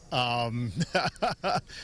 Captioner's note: laughs